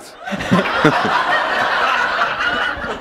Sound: laughter

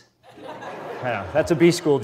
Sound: audience laughs

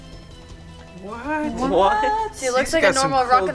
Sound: they exclaim in surprise

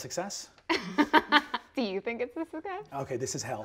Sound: laughs

